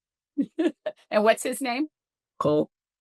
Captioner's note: chuckles